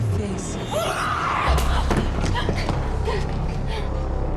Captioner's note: Miriam screaming